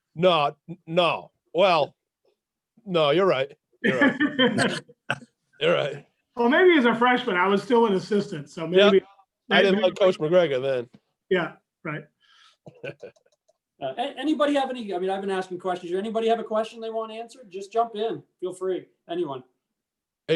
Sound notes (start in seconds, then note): 3.8 chuckling; 12.6 chuckling